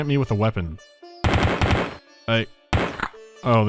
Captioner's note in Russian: звуки оправданной самозащиты